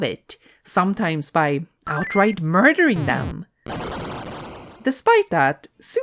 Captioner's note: explosion noise